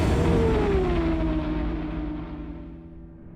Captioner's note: engine roars